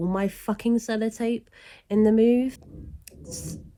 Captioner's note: bang